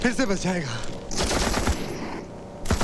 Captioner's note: Rapid gunfire